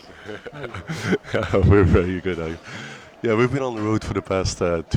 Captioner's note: laughs